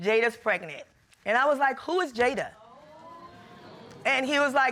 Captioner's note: audience exclaiming